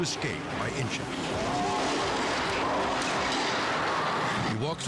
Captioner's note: car crashes